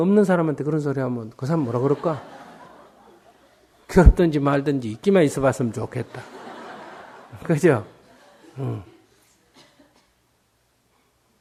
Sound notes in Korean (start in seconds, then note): 1.6 청중 웃음; 6.0 청중 웃음